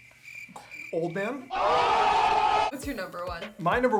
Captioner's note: cheering